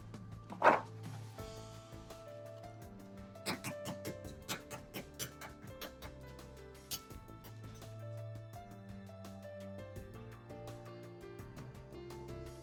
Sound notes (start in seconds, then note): 0.6 sound of paper towel tearing; 3.1 sound of egg cracking